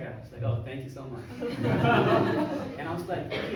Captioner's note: crowd laughs